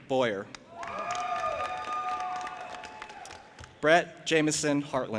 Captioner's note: audience applauding and cheering